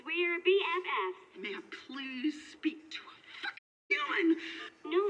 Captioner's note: woman on phone